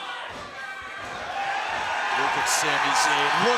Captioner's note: crowd cheers